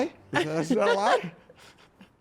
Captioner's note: laughs